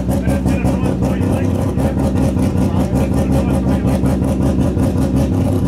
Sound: engine sound drowning out talking

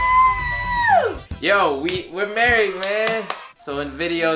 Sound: cheers; audience cheers

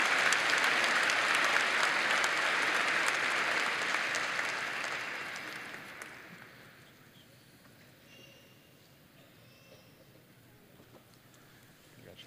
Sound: applause

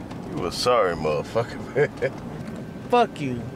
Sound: laughing

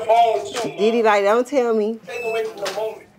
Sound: machine beeping

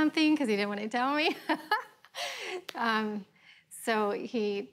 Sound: laughs

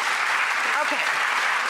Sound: audience applauding

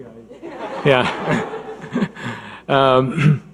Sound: audience laughing

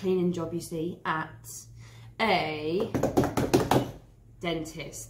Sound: hands thump

